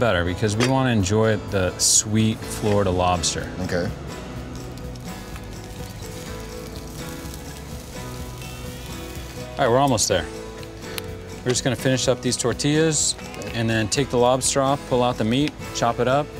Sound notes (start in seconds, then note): 4.2 grill sizzling; 5.0 light upbeat music